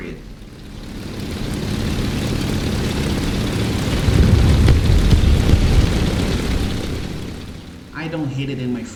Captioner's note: aircraft Engines ,Gunfire, Flying Sounds